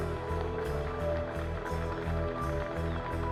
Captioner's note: spectators applauding